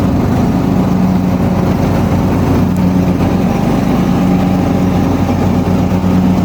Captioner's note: engine revving